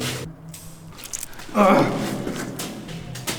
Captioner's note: stab